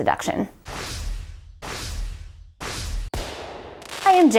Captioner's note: air whooshing